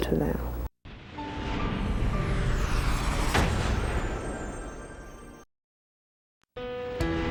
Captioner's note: whooshing